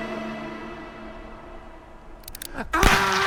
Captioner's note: gunshot